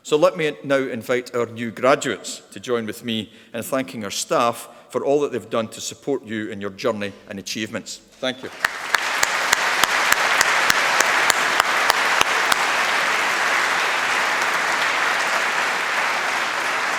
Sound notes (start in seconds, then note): 8.7 applause